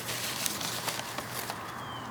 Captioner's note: ruffling papers